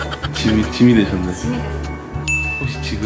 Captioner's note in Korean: 웃음